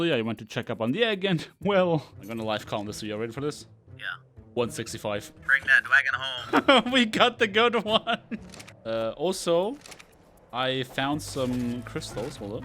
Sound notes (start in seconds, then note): 5.4 laughs